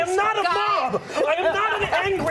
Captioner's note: laughter